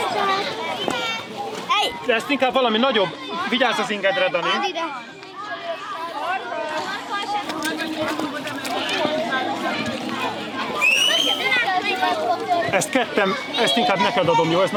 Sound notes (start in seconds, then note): 1.6 chatter